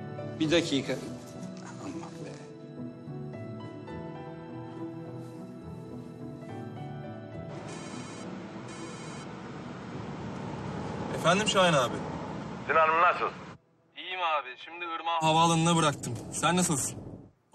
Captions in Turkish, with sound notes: Bir dakika. Aman, be. [TELEFON ÇALIYOR] Efendim. Şahin Abi. Sinan nasılsın? İyiyim abi. Şimdi Irmak'ı havaalanına bıraktım. Sen nasılsın?